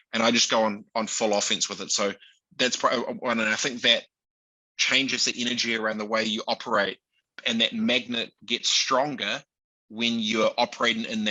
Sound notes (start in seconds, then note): none